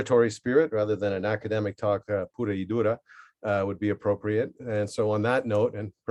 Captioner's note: spanish